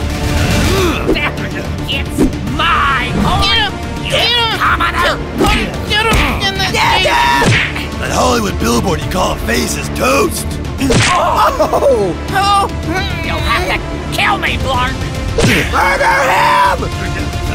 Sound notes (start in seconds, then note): 0.1 dramatic music; 5.7 grunts